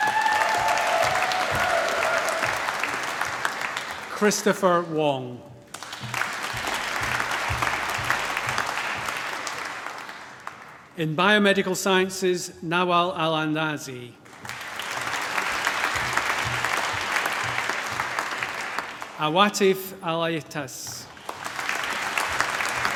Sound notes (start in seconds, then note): 0.0 cheering, applause; 5.6 applause; 14.2 applause